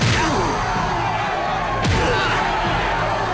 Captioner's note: crowd cheers